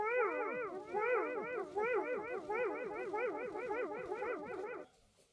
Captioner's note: echoing